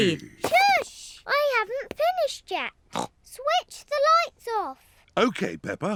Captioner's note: snorts